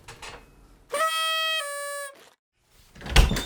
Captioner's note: sad party horn